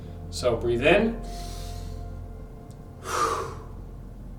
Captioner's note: inhales; exhales